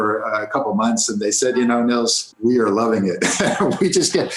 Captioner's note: laughs